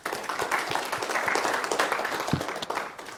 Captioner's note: audience applause